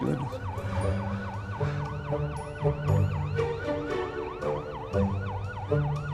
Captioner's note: police sirens